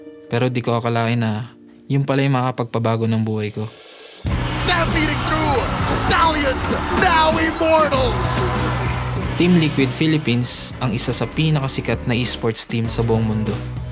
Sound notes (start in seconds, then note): 4.3 commentator 1, in English; 7.9 upbeat music playing